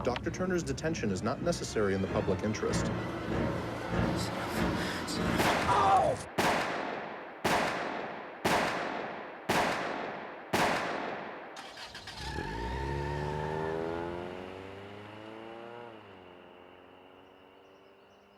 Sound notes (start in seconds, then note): 5.2 gunshots; 5.3 gunshot; 5.7 screams; 11.5 car engine starts; 11.6 car screeches away